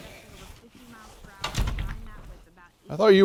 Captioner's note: door slams